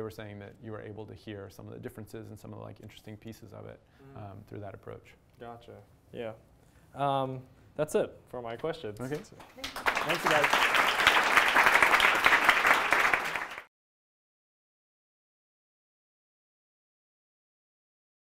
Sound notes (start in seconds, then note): 9.3 applause